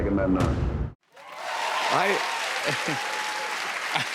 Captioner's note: cheers and applause